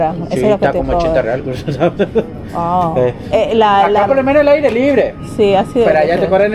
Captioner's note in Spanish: risas